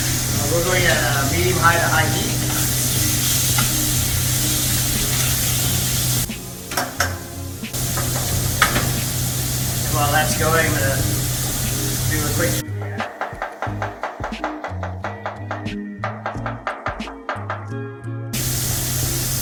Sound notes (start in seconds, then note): 0.0 chicken sizzles; 4.8 chicken sizzles; 7.7 tongs tap the pan; 16.3 knife pounds on board; 18.3 chicken sizzles